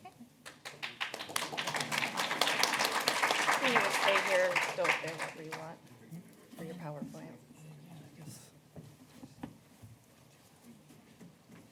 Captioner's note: applause